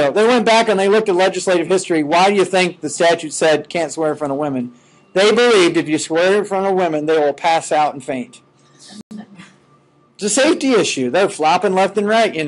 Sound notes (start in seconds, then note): 9.1 students chuckling